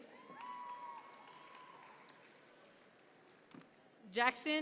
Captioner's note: audience members cheer